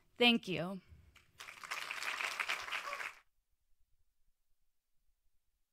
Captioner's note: audience applauds